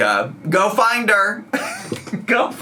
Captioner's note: laughs